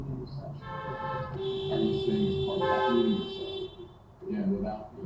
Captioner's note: everybody honking